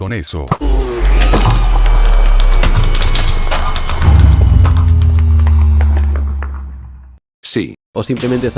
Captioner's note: dragon dying.mp3